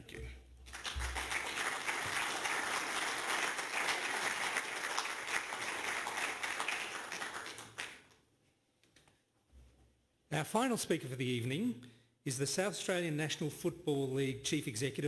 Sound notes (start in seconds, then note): 4.3 applause